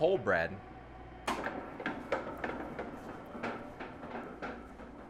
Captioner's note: mixer clunking